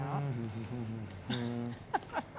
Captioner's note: humming; laughing